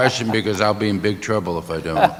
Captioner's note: laughter